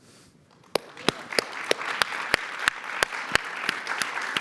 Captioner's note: audience applauds